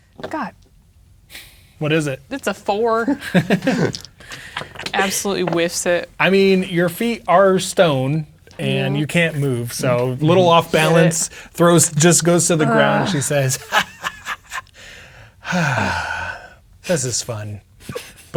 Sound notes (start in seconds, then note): 2.9 players laughing; 12.6 groaning; 15.4 sighs